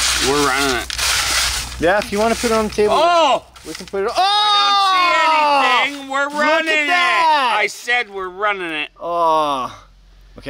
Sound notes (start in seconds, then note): 4.0 exclaims; 4.1 exclaims in shock; 9.1 exclaims